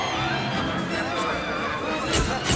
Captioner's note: reporters chattering